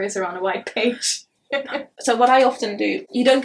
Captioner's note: chuckles